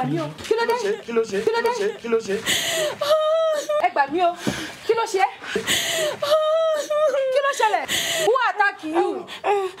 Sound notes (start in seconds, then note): 0.0 speaking foreign language; 0.2 both speaking in foreign language; 2.3 Tife sobbing; 4.3 speaking foreign language